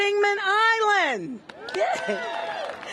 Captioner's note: cheers and applause